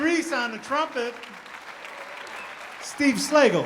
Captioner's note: audience applauding